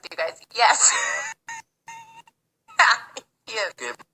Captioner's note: laughs